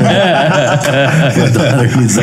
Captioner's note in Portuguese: todos rindo